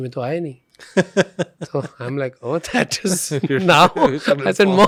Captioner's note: laughs